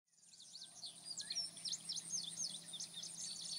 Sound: birds chirping

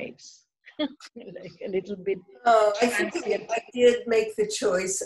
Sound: laughter

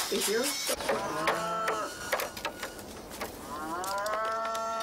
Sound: cows calling

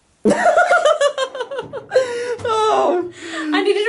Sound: laughing

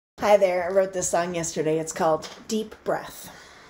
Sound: takes deep breath

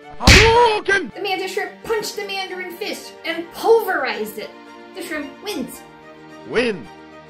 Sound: punch noise

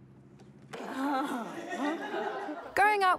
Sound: laughter

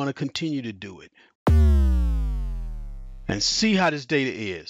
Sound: sound system buzzing

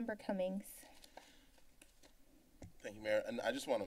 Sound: rustling sound

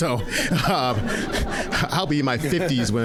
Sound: audience laughing

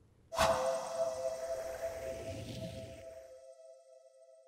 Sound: swoosh

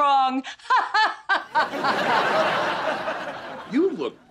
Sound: laughs dramatically

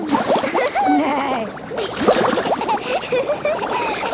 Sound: giggling, neighing; giggling

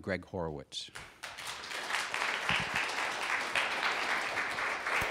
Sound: audience applauding

